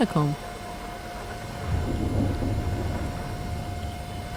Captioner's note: thunderstorm continues